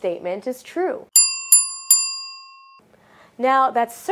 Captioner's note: bell rings